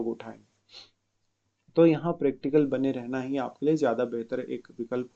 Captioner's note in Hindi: नाक से की जाने वाली आवाज़